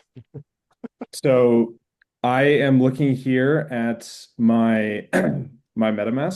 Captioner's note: clears throat